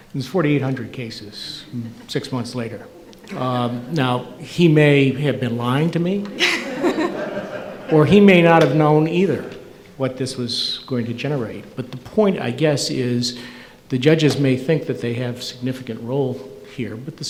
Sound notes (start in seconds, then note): 6.1 audience laughing